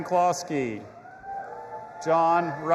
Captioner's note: audience applauding and cheering